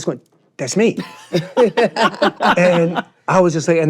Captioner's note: laughing